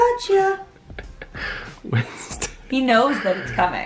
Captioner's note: laughing